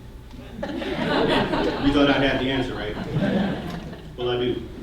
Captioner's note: laughter